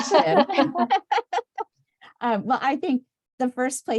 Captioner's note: laughter